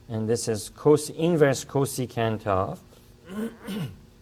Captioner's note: clears throat